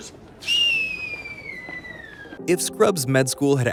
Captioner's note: descending whistle